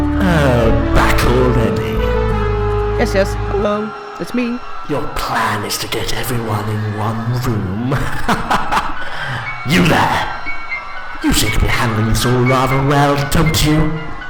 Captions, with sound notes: Oh, back already? Yes, yes, hello. It's me. Your “plan” is to get everyone in one room? (LAUGHTER) YOU THERE! You seem to be handling this all rather well, don’t you?